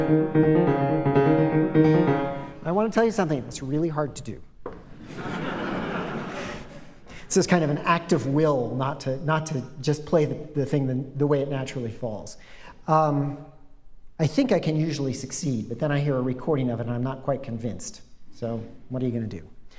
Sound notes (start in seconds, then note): 4.9 laughter